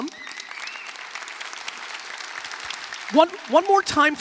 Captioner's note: applause